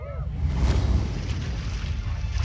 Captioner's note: waves crashing